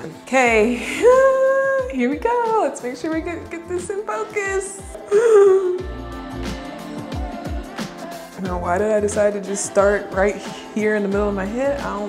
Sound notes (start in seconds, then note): 0.8 sighs; 5.0 gasps